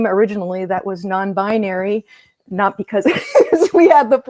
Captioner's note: laughter